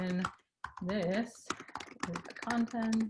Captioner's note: keyboard typing